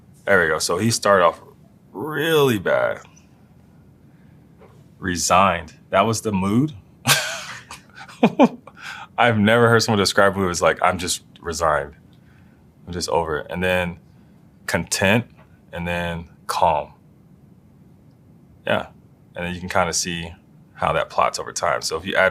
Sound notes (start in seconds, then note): 7.0 laugh